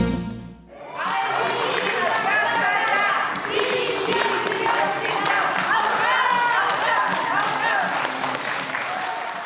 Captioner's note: applause